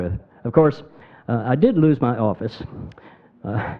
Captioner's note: scoffs